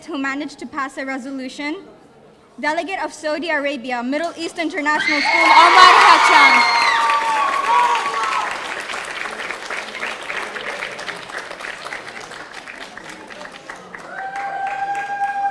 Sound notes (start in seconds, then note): 4.9 audience cheering; 8.4 audience applauding